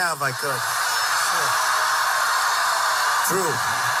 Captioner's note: crowd cheering